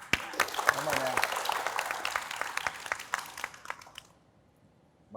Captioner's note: applause